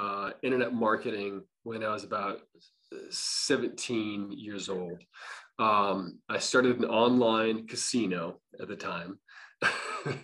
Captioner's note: laughs